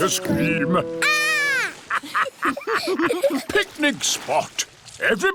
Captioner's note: laughter